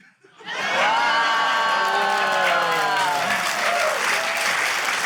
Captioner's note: cheering, applause